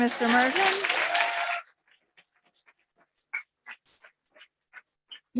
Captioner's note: audience clapping